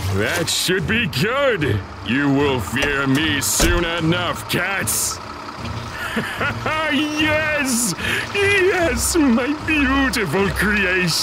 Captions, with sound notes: That should be good! You will fear me soon enough, cats! (laughing maniacally) Yes! Yes, my beautiful creation!